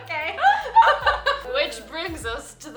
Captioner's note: laughing